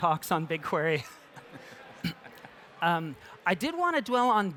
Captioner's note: laughter